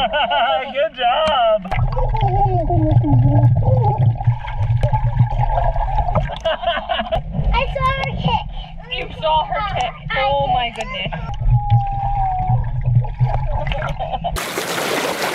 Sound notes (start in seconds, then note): 0.0 laughs; 6.3 laugh